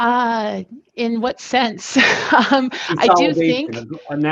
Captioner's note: laughs